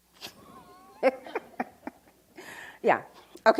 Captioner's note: laughs